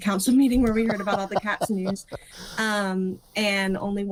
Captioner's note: both laughing